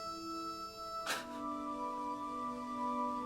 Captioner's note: scoffs